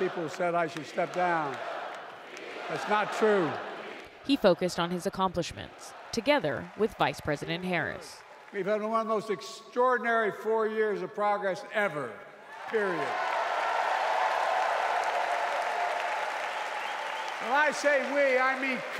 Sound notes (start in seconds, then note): 17.3 applause; 17.3 cheering